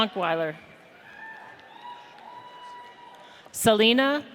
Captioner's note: audience cheers